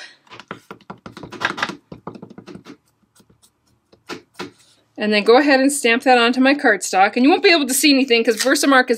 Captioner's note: tap, tap, tap